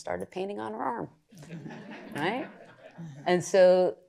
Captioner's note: laughter